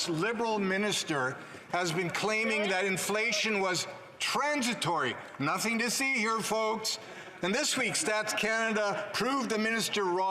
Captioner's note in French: voix de l'interprète